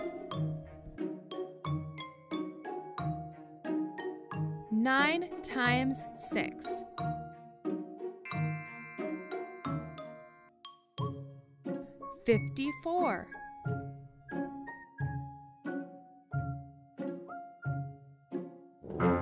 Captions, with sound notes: (animated music) Nine times six. (animated music) (magical chime) 54. (animated music)